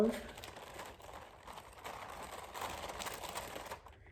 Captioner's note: paper crinkles